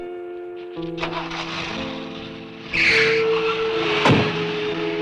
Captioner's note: engine revving